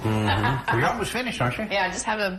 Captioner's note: chuckles